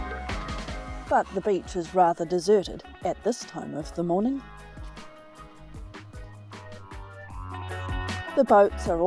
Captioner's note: waves lapping